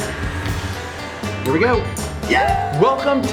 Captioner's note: everyone cheers